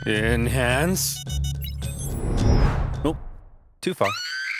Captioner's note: beeping; screams